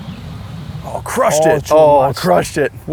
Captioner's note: speaks Spanish